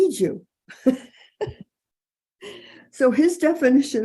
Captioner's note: person chuckling